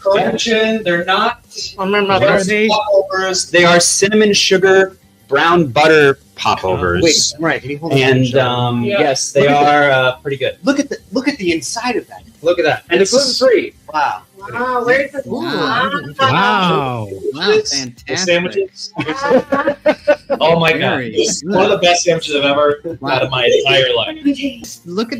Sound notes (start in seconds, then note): 15.3 multiple "wows" and "oohs"; 19.0 laughing